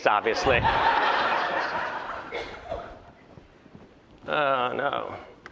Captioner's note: laughter